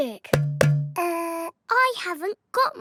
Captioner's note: hollow clunking